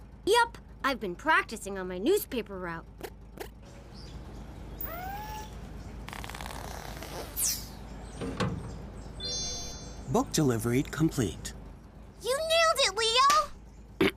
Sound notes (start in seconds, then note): 5.1 book flying; 9.2 Book Drop chimes